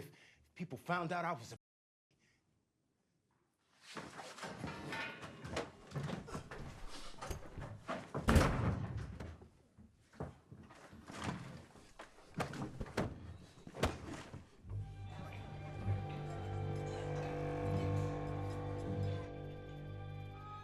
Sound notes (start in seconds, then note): 8.2 door slams shut